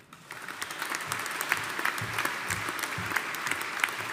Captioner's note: audience applauding